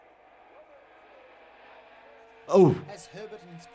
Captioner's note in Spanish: motor acelerando